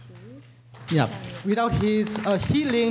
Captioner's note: applause